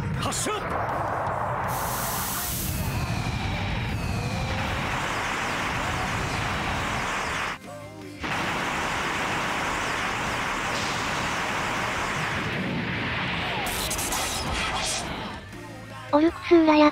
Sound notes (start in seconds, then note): 4.8 clap